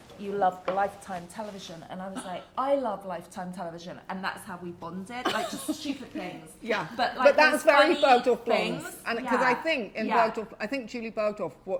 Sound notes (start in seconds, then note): 5.3 chuckles